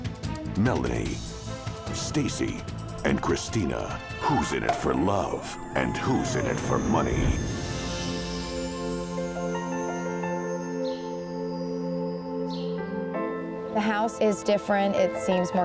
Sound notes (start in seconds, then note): 4.6 cork pops; 7.8 gentle music; 7.8 shimmering tone